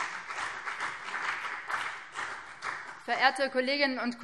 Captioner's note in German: Beifall BÜNDNIS 90/DIE GRÜNEN